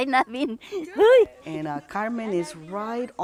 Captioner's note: laughter